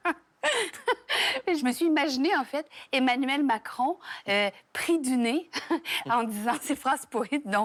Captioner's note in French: rires